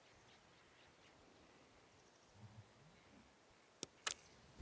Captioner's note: birds chirping